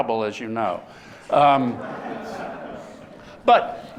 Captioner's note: laughter